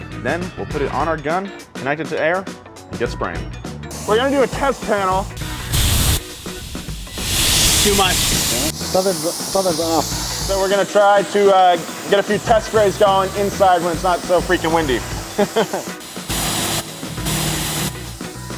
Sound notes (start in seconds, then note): 5.5 spraying; 15.2 laughs; 16.1 spraying